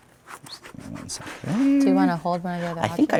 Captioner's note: mumbles